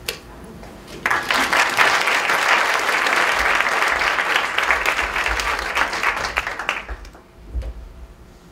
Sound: clapping

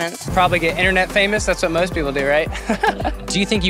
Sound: laughs

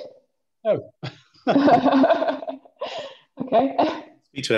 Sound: laughs

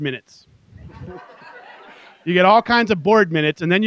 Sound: laughter

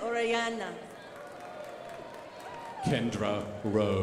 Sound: crowd applauding

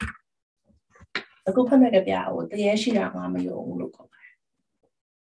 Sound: speaks in Burmese

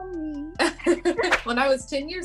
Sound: laughing

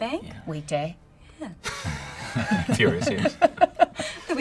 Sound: laughter

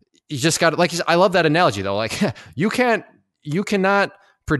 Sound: laughs

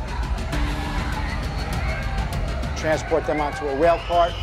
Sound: intense music; screaming

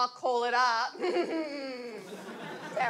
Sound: smug evil laugh; audience laughs

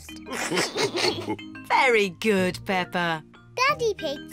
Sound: all laugh

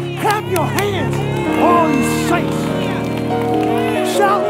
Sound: congregation applauding

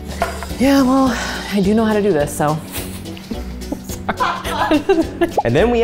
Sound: laughing

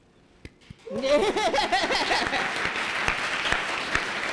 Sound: applause

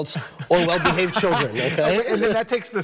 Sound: laughs

